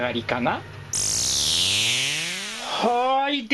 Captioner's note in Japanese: 効果音